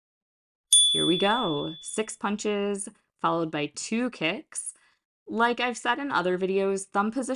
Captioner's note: chime